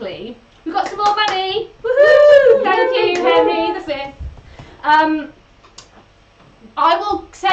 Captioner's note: they cheer